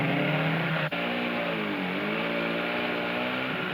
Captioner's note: engine roaring